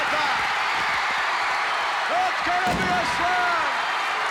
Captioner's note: crowd cheers